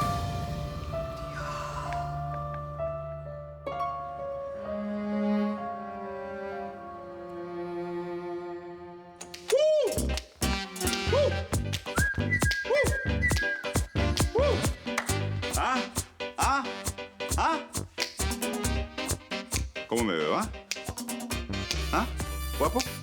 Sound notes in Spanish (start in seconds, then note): 14.1 Tararea; 15.6 Chasquido de dedos